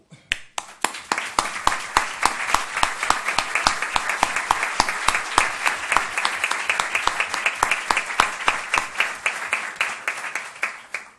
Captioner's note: applauses